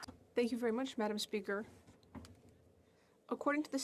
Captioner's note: speaking French